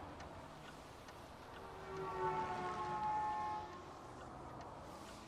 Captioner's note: horn honking